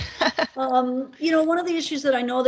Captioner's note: laughing